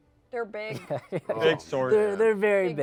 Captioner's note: laughs